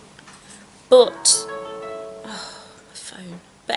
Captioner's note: phone notification sound